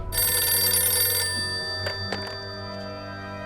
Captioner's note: phone ringing